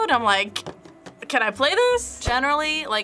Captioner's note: taps table nervously